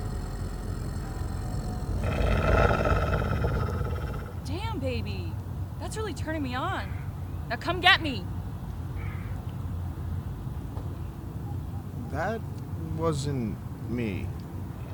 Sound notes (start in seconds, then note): 0.0 werewolf growling